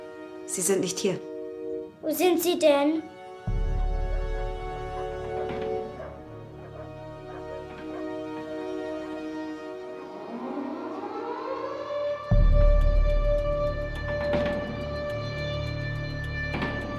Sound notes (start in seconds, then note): 10.0 alarm wails; 12.3 dramatic music